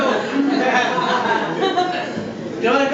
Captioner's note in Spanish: risas del público